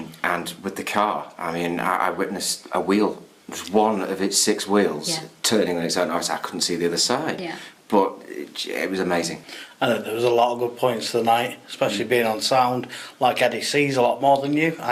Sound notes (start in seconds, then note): none